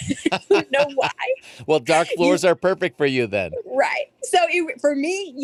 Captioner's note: laughs